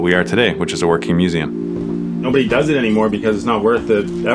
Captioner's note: speaking on the phone